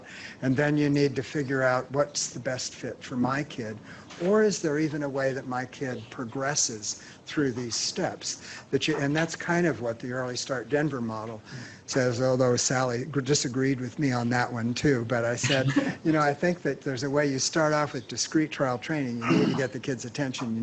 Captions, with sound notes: and then you need to figure out what's the best fit for my kid. Or is there even a way that my kid progresses through these steps? That you, and that's kind of what the Early Start Denver Model says, although Sally disagreed with me on that one too, [laughter] but I said, "You know I think that there's a way you start off with discrete trial training, and then you get the kids attention."